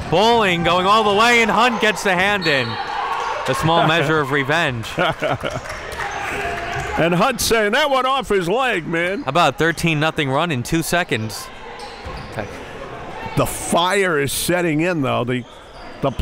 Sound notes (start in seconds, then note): 4.8 laughing; 5.0 applauding; 5.6 cheering